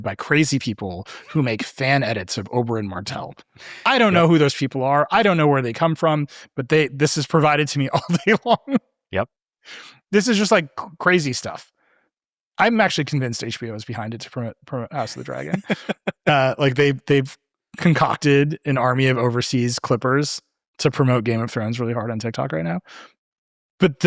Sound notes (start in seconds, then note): 7.4 laughing; 14.9 laughing